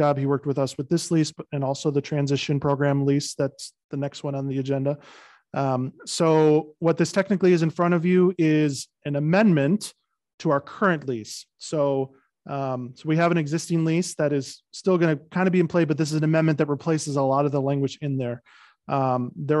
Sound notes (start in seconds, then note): none